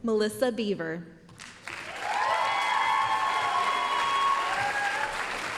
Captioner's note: applause, cheering